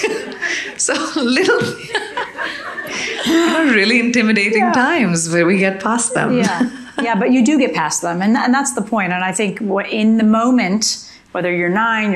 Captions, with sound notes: (audience laughing) Really intimidating times where we get past them. - Yeah, yeah, but you do get past 'em. And that's the point. And I think what in the moment, whether you're nine,